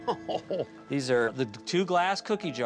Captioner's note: Pogue chuckles